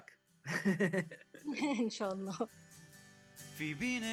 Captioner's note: laughs